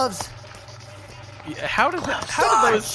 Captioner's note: whispering